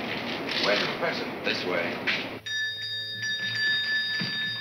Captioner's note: bell ringing